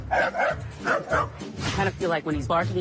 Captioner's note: dogs barking